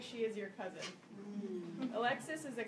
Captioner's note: audience murmurs